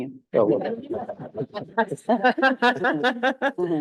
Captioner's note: audience laughing; laughing